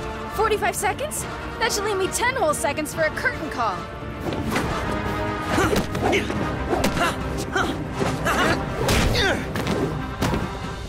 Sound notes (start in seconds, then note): 5.3 grunting